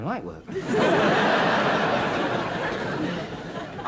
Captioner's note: audience laughs